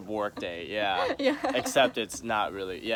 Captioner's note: laughs